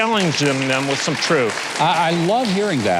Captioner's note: audience applause